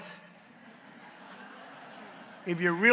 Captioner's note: laughter